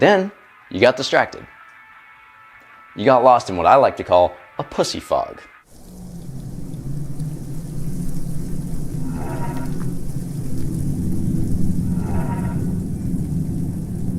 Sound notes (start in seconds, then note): 5.7 wind whooshing; 9.0 gate creaks